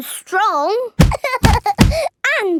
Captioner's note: banging